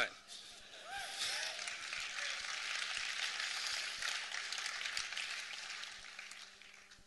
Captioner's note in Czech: potlesk